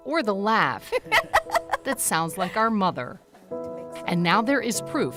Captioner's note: laughing